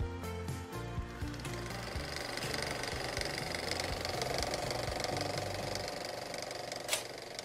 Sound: film projector sound, music fades

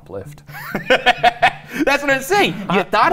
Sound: laughing

